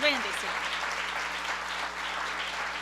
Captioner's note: applause